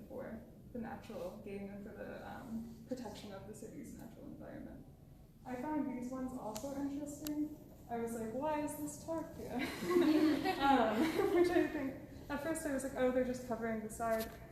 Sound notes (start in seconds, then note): 9.5 laughter